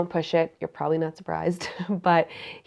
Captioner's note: chuckles